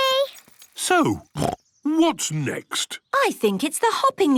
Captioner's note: snorts